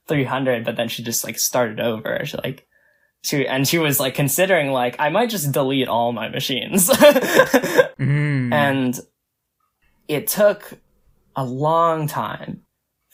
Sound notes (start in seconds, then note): 7.0 laughs